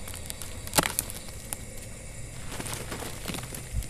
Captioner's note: cracking